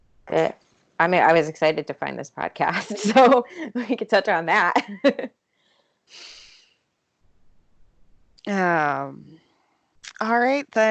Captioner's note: laughs